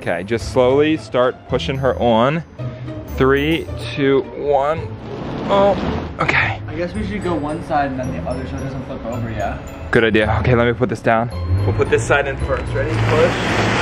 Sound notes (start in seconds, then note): 4.8 grunts